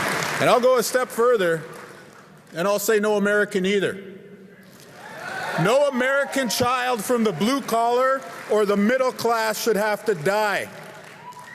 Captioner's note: cheer and applause